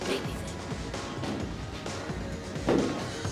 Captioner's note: grunts